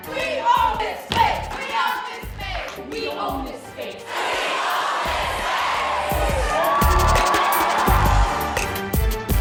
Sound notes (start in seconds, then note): 3.9 crowd; 5.4 audience applauding